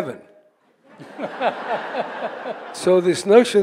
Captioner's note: audience laughing